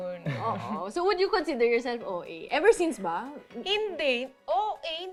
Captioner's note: chuckles